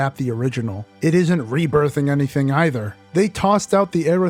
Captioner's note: none